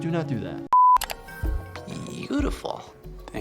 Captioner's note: alarm beeping; mouse clicking; mysterious music